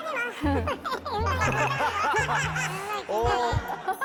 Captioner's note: he can't help but laugh